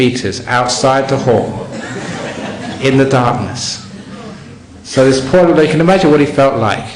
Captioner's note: some laughter